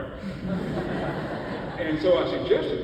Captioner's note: audience laughs